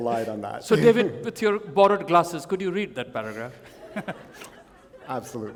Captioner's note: chuckle